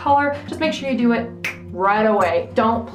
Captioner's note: fingers snap